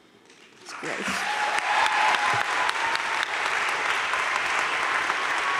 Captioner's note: crowd cheering and applauding